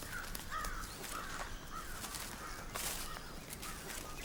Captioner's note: crow cawing